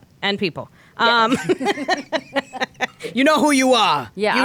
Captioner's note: laughing